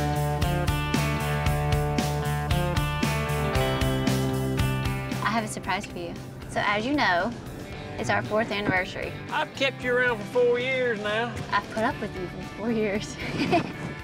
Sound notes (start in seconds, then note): 9.2 says jokingly